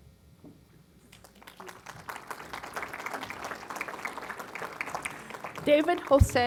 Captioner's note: applause